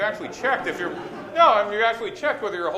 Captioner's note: laughter